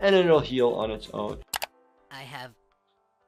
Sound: background mouse clicking

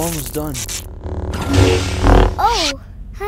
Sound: door open

